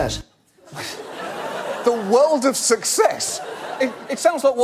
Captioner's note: scoffs